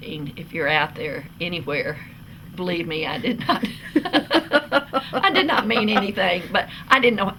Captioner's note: laughs